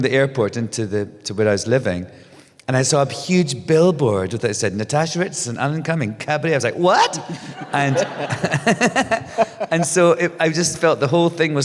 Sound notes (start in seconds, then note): 7.0 laughs; 7.1 laughter